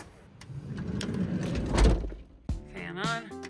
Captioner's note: door whooshing